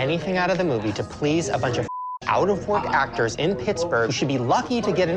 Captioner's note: beep